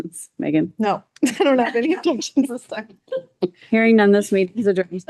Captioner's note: laughs